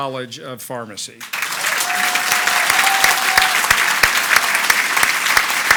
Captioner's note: audience applauds